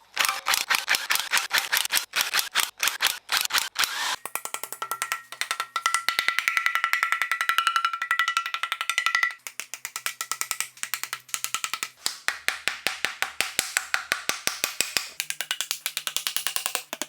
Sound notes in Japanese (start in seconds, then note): 2.3 作業音